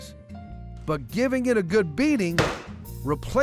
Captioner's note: pounding sound